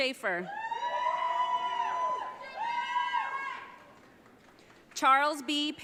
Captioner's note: audience cheering